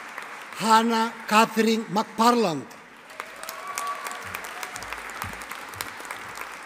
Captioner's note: audience applauding